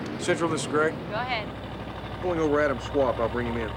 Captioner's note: woman On Radio